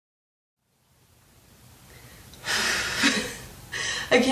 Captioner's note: letting out breath